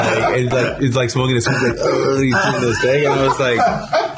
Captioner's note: imitating drunk; laughter